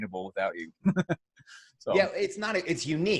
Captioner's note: laughs